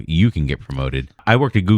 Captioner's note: uh